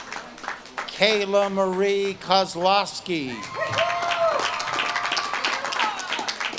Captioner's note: audience claps and cheers